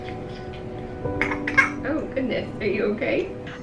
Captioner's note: coughing